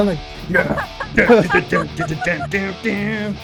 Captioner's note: laughter